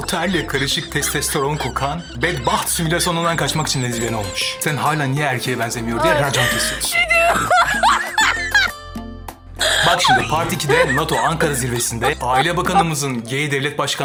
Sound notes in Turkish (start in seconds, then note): 9.6 kahkaha